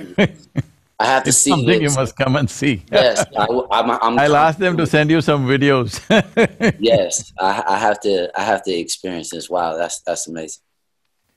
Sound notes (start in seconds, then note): 2.9 laughs; 5.8 laughs